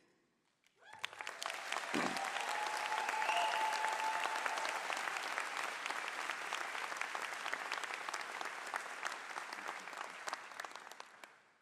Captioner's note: cheers and applause